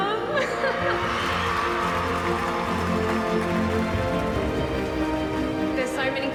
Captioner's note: audience applauding and cheering